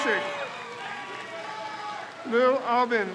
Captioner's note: crowd cheers